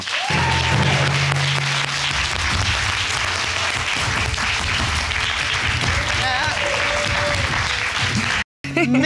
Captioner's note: audience applauding